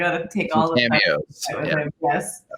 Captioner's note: both conversing